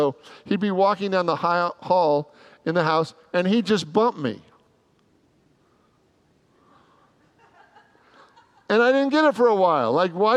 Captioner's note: congregants laugh